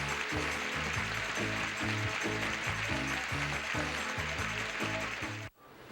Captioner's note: audience applauding